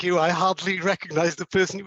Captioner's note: laugh